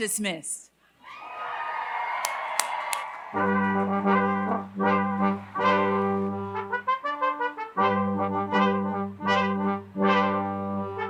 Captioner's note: applause